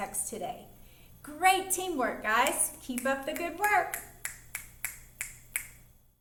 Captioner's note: snapping